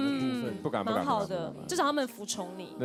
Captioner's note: politely